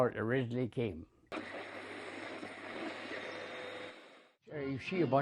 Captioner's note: radio tuning